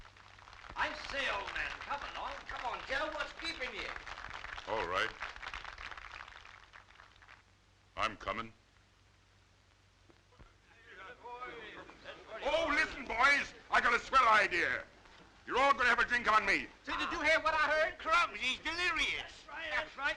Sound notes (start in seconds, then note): 0.6 audience applauding